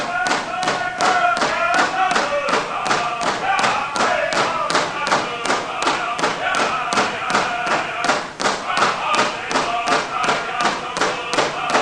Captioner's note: shouts